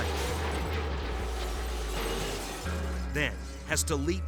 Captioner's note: vehicles thudding